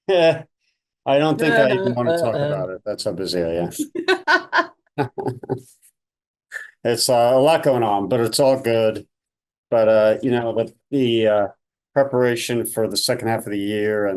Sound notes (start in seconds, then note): 3.7 laughing; 5.0 laughs